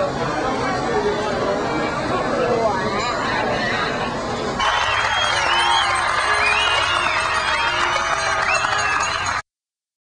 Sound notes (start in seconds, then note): 4.6 cheers and applause